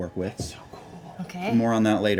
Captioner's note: whispering